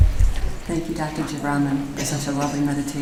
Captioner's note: voiceover